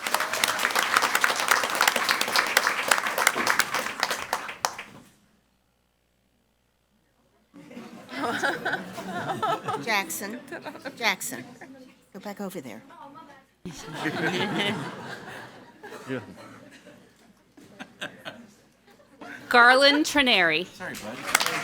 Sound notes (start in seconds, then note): 0.0 crowd cheering and clapping; 7.6 crowd laughing; 13.6 crowd laughing; 21.4 crowd clapping and cheering